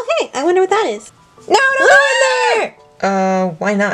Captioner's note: ahh!